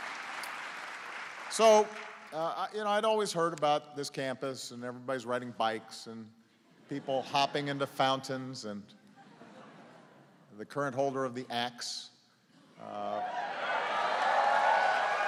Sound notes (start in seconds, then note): 9.0 laughter; 13.6 applause